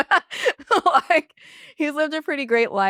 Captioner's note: laughs